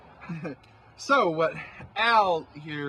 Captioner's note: Rob nervously laughs